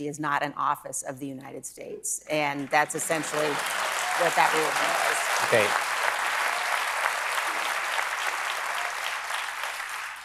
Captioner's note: applause